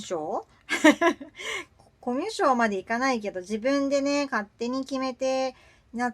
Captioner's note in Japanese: 笑い